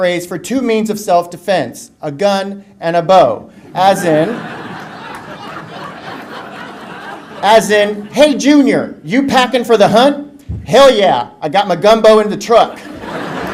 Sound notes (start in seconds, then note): 3.6 audience laughter; 12.7 laughter